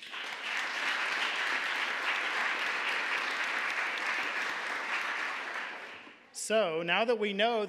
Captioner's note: applause